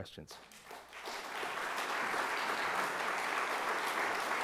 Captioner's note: audience applauding